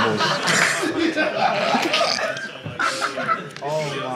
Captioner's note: Sidemen laugh